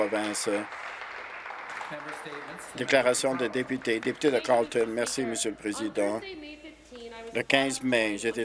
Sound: some Applause

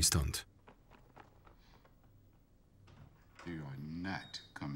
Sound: rapid footsteps

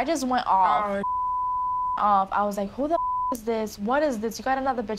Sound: beep

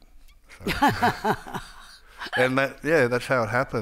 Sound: Margaret laughing

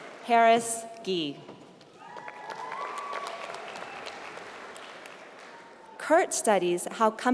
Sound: applause

